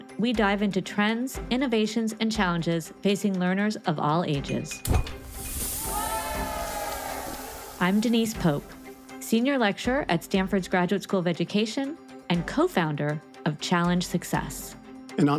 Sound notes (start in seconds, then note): 4.8 object clinking; 5.0 air whooshing